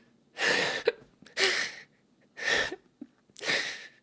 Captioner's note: sobbing